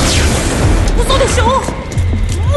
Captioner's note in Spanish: dos disparos de blaster